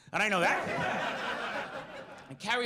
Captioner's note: audience laughs